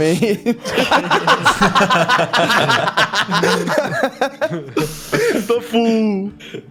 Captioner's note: laughs